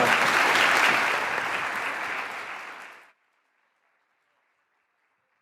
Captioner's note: audience continuing to applaud